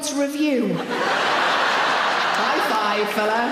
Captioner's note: audience laughing